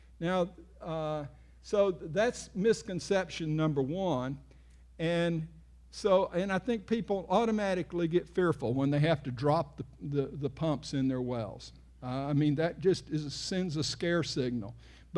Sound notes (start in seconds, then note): none